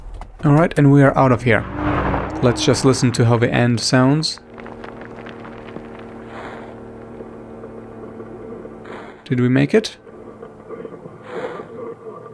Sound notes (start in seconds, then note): 7.1 radio crackle of uncertainty